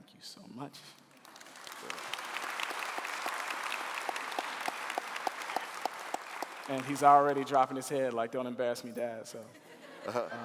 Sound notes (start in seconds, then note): 1.0 clapping